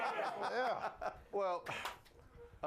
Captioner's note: all cheer